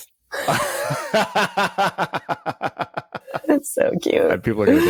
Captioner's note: both laughing